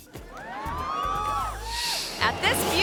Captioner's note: audience cheering